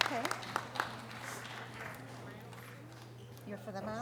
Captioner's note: audience applause